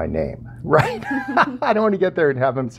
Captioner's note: laughs